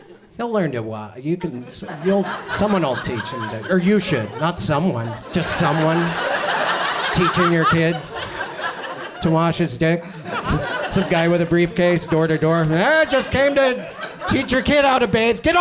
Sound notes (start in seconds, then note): 5.5 audience laughs